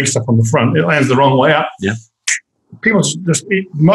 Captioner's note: makes whooshing noise